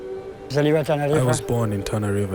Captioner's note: speaking in foreign language